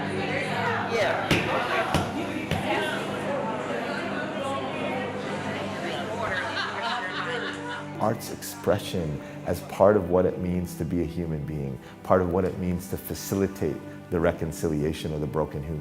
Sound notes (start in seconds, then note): 1.3 banging on clay; 5.9 laughter